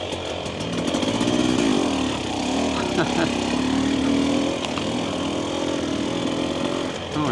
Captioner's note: laughs